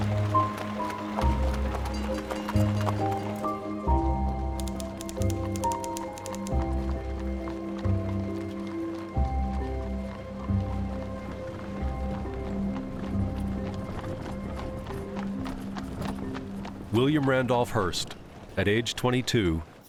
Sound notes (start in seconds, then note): 7.9 horses trotting